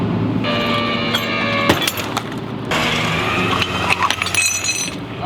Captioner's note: machine operating